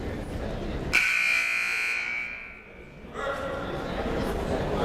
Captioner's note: buzzer blares